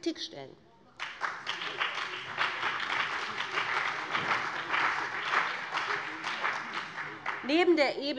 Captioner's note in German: Beifall BÜNDNIS 90/DIE GRÜNEN und CDU